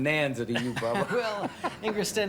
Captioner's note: laughs